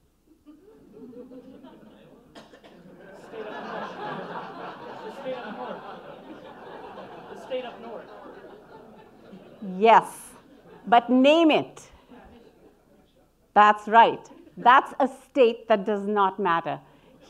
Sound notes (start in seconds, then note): 0.7 audience laughing